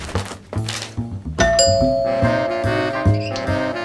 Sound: door bell

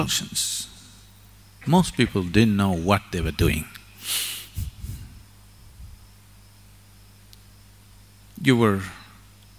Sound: laughs

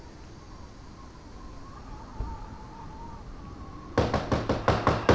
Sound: wind whistling; knocking at the door

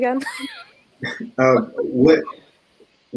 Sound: laughs

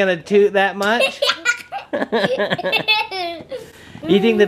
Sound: laughing

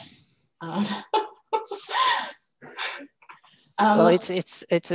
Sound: laughter

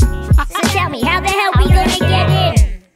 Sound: haha

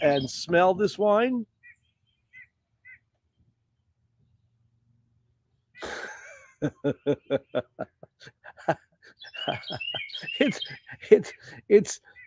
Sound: laughter

